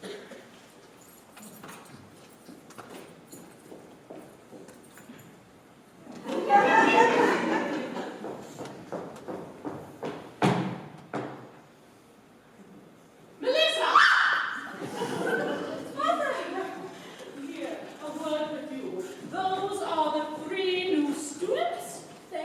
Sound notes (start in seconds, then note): 6.2 laughter; 13.8 MELISSA screams, laughter